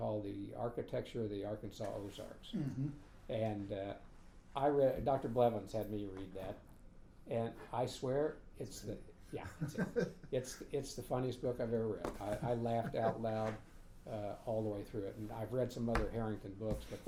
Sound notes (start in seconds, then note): 9.5 laughing